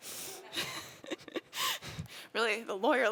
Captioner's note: laughing